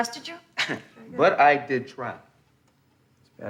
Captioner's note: chuckles